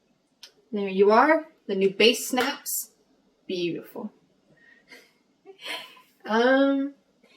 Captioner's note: laughs